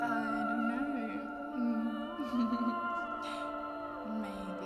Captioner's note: giggles